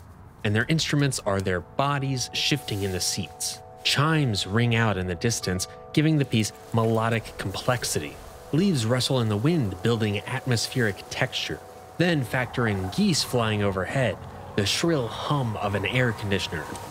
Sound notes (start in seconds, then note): 6.2 rustling almost like rain; 11.9 birds cooing